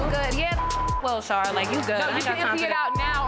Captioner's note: beep